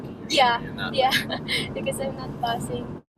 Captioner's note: laughs